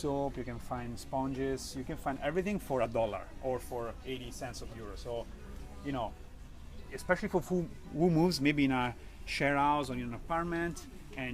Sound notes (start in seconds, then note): none